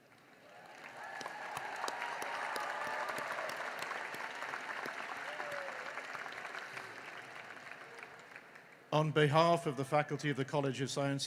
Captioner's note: cheering and applause